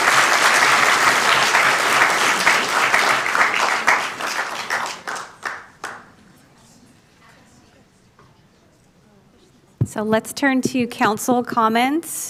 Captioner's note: applauding